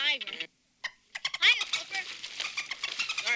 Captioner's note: Flipper chattering